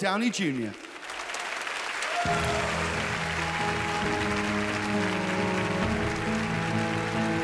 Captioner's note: audience applauding; wondrous music